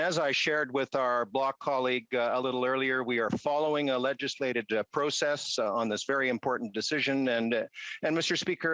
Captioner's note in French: voix de l'interprète